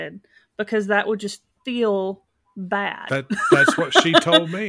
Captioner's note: laughs